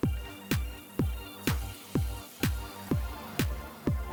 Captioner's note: upbeat electronic music; egg yolk sizzles